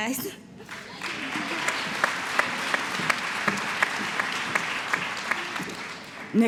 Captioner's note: applause